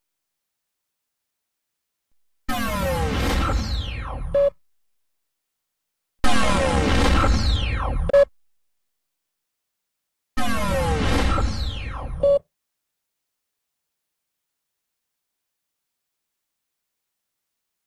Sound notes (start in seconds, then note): 0.2 silence; 2.4 digital video game sounds winding down; 6.3 winding down video game sounds continuing; 14.5 silence